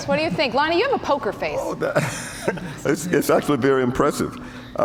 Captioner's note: laughs